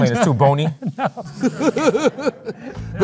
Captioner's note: laughs